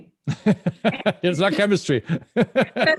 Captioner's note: laughs